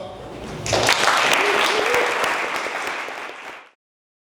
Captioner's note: audience clapping